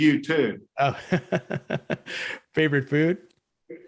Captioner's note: laughs